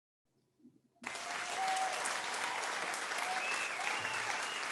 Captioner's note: crowd cheers